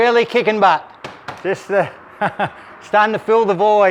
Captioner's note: laughing